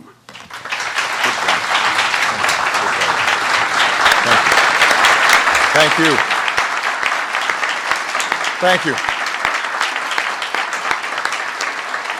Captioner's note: applause